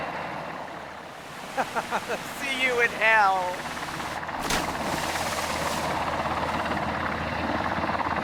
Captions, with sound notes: (Donovan laughs) - See you in hell. (water splashing)